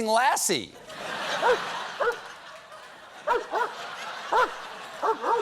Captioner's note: laughter; barking